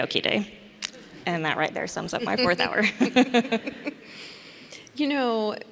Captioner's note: laughs